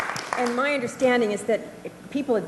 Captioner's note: applause